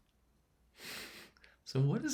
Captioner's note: chuckling